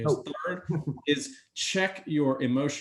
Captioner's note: chuckles